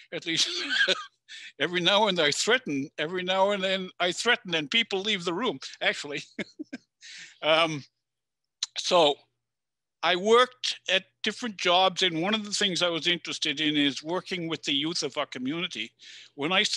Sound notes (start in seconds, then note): 6.1 chuckles